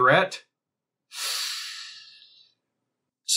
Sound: sharp intake of breath

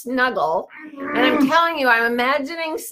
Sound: growls

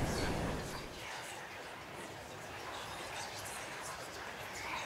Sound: whispers

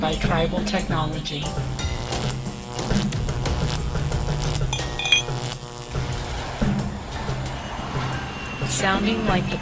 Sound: electricity hums

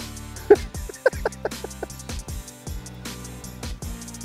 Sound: laughs

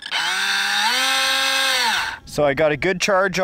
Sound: loud motor whirring

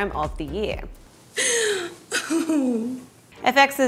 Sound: laughs/sighs

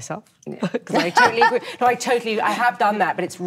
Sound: Nicole laughs

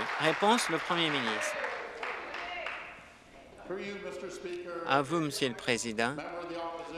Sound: applause

